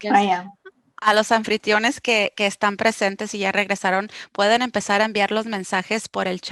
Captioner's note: speaking foreign language